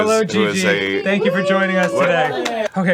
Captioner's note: crew cheering on